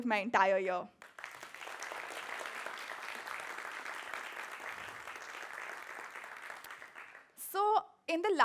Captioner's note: applause